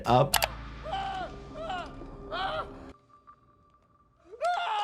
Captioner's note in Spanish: Charlie sigue gritando